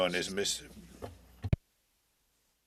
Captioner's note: speaking french